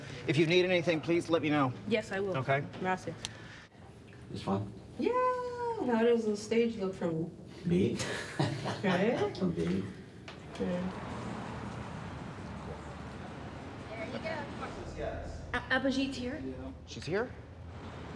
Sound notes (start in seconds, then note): 8.0 laughs; 10.4 car whooshing